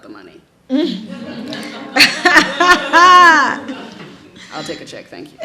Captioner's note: audience laughs